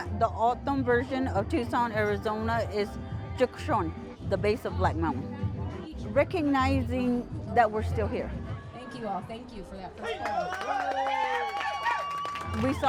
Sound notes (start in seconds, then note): 2.9 in foreign language; 10.0 audience cheering and applauding